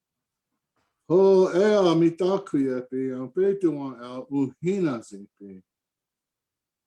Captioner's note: praying in indigenous language